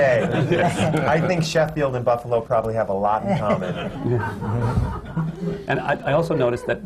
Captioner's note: laughter